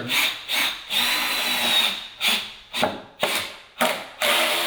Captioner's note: drill whirring